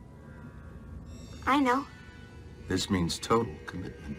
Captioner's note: eerie ambience continues